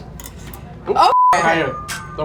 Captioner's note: beep